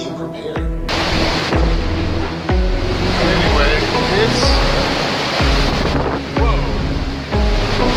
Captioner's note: wind gusting